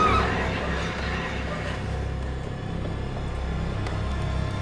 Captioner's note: Elaine screams; loud sinister music; dark menacing music